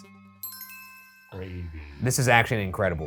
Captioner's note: suspenseful music; list chimes